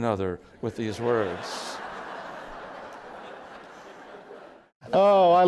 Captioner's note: laughter